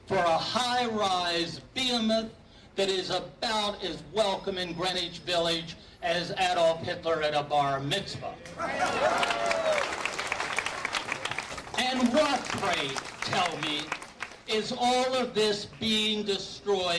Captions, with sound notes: for a high-rise Biamit that is about as welcome in Greenwich Village as Adolf Hitler at a bar mitzvah. (applauding) (cheering) And what, pray tell me, is all of this being destroyed for?